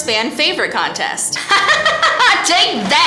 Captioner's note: hysterical laugh